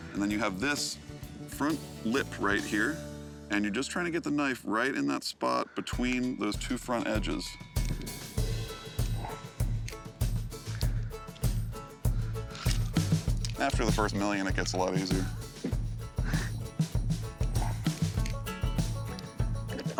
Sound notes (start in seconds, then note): 16.1 chuckling